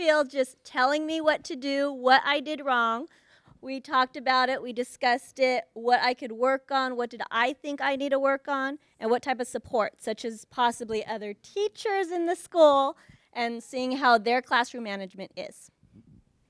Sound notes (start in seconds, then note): none